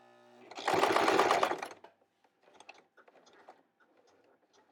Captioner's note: sewing machine tapping